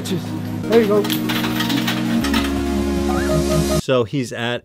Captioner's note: coins clanging and falling